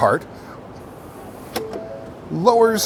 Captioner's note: car chiming